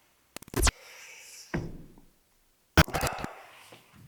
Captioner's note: static crackling